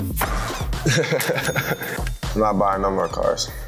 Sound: laughs

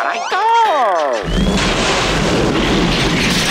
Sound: screaming

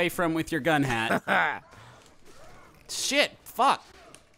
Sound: laughing

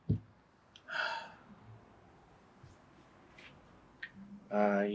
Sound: Sam sighing

